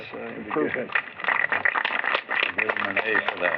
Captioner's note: applause